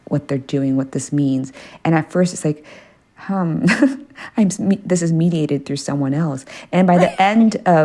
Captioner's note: laughter